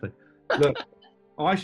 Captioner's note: laughing